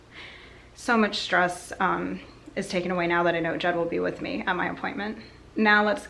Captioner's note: sighs